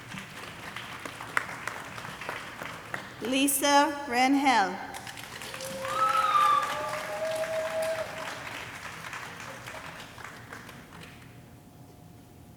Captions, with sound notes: (audience applauding) Lisa Renhel. (audience cheering and applauding)